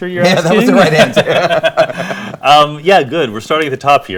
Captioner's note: laughs